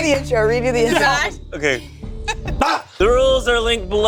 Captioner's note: screams